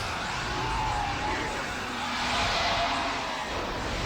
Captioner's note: voices wailing